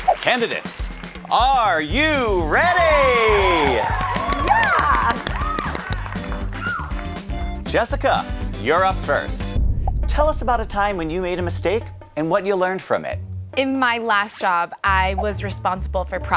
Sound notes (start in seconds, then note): 3.2 audience cheering; 5.4 contestant clapping